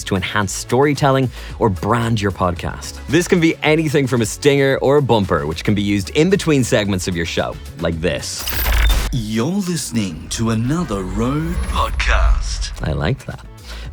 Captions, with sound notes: to enhance storytelling or brand your podcast. This can be anything from a stinger or a bumper, which can be used in between segments of your show like this. (static scratching) - [Voiceover] You're listening to another RØDE podcast. I like that.